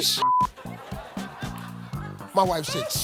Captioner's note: audience laughing